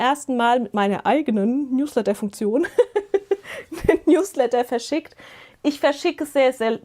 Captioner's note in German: gelächter